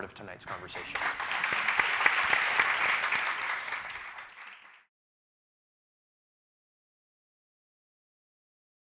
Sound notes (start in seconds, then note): 0.5 audience applauding